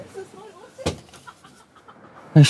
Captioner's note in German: Stimmen von hinten